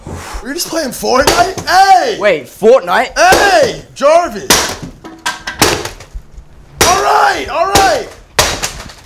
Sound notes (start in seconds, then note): 4.5 banging